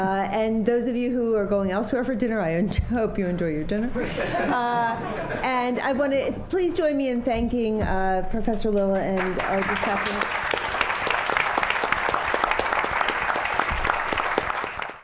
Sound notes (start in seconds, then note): 10.8 applause